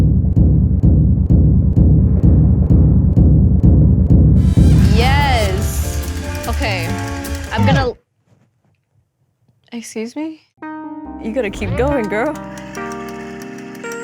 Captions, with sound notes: (drums banging) Yes. (trumpet blaring) Okay, I'm gonna- (record freezes) Excuse me. (techno music) You gotta keep going, girl.